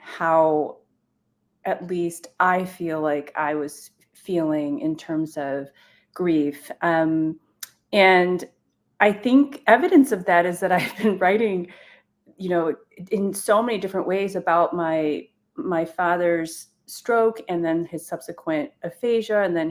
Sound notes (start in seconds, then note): 11.2 chuckles